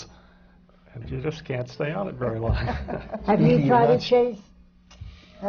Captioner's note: laughter from the panel